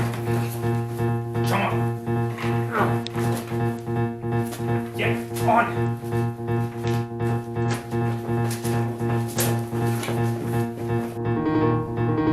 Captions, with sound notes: (intense keyboard music) Come on! Get, On! (dragging footsteps) (Music intensifies)